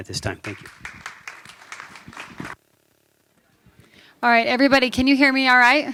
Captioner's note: applause